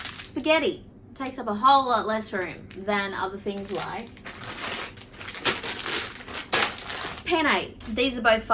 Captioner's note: rustles loud packets